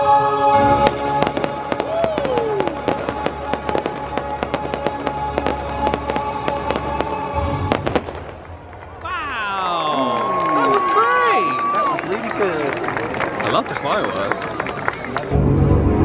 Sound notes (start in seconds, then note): 0.7 fireworks crackling; 8.5 audience cheering